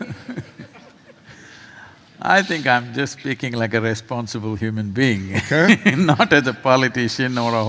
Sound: laughs

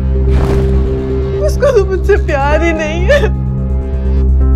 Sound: sobbing

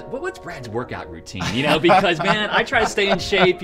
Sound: laughs

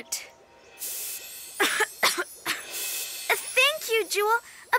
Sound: Checkers coughs

